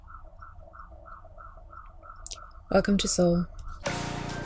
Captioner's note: sirens in background